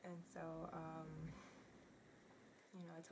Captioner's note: sighs